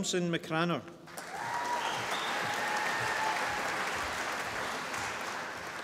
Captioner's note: applause